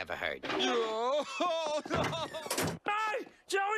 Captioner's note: man crying